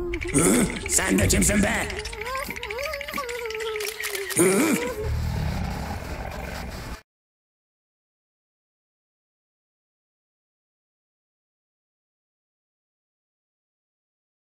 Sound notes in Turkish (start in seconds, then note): 4.9 tiger_noise.mp3